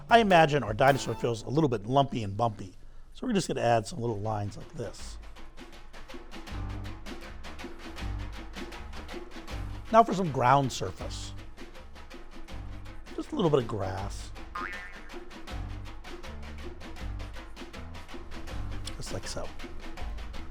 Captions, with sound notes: I imagine our dinosaur feels a little bit lumpy and bumpy, so we're just gonna add some little lines like this. (lively upbeat music) Now for some ground surface. Just a little bit of grass. (spring boings) Just like so.